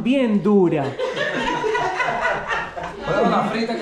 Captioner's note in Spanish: Risas